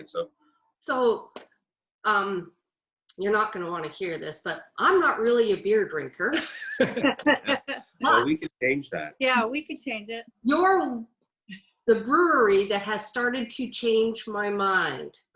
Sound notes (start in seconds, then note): 6.4 everyone chuckles